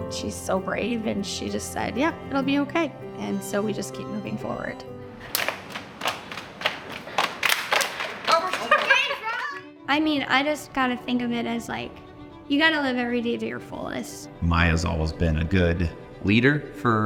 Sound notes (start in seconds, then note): 5.2 hands clapping